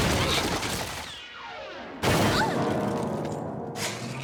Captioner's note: plong!